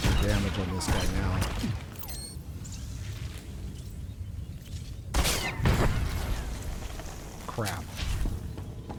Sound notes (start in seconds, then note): 2.7 gunshots